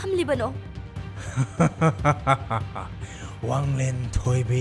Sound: laughing

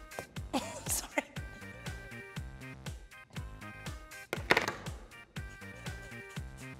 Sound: laughs

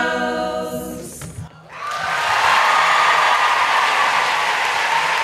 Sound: audience cheers

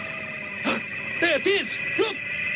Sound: gasps

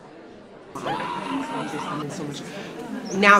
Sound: man screaming

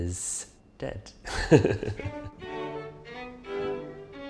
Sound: laughs; classical music

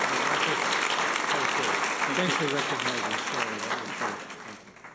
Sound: people talking

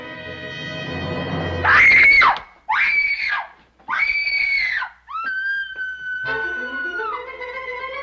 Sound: woman screaming

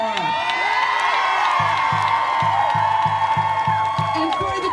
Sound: audience cheering loudly

